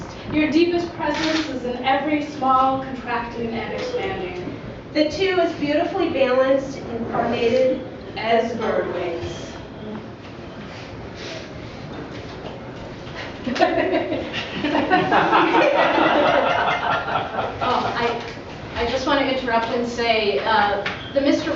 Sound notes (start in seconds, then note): 13.4 laughter